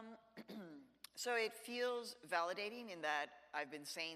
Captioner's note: clears throat